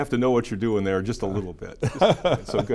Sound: giggles

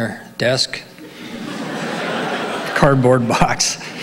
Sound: audience laughing

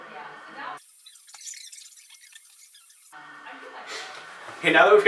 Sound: tape fast forward scratching

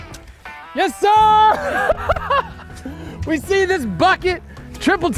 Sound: laughing

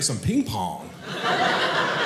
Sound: audience laughing

